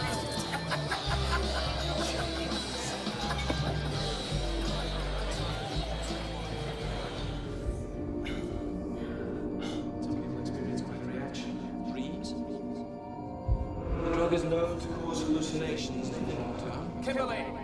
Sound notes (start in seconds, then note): 0.3 laughs; 7.3 breathing heavily